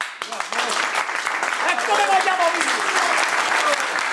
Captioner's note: applause